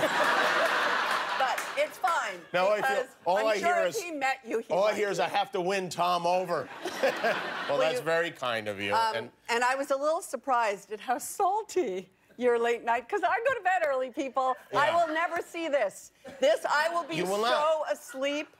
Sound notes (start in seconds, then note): 3.5 laughter